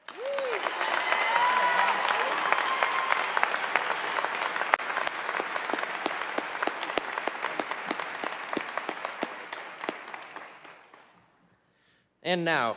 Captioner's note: applause